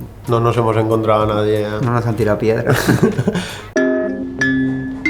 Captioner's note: laughter